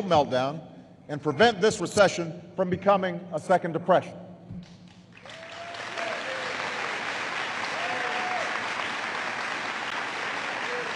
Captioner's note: applause